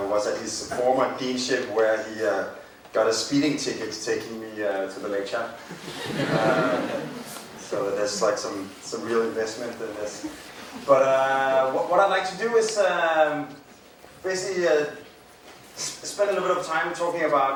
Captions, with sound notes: was at his former deanship where he got a speeding ticket taking me to the lecture. (crowd laughing) So that's like some real investment. But what I'd like to do is basically spend a lot of time talking about